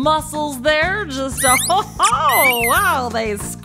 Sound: soundbite of squeaking

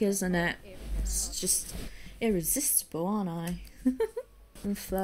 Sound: giggles

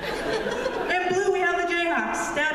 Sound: laughter; cheers from audience

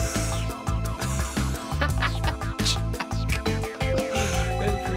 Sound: laughs

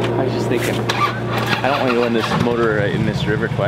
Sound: engine starting

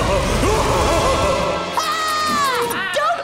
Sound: laughs maniacally; screams

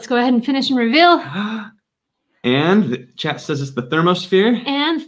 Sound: gasps

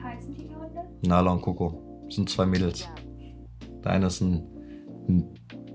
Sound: speaking foreign language

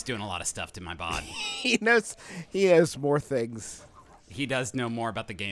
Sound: laughs

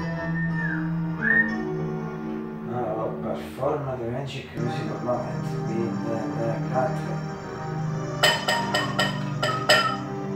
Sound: whistle; whistle

